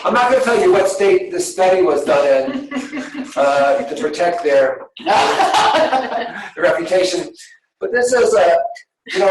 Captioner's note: laughter